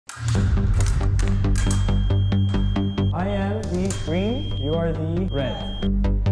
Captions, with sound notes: (wild music) (foils clacking) - I am the green. You are the red.